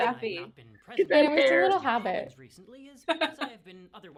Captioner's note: laughter